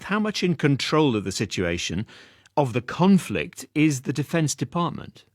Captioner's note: none